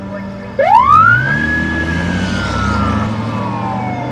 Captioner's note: siren wails